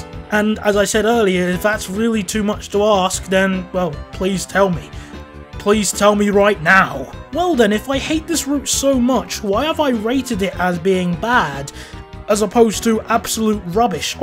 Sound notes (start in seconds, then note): none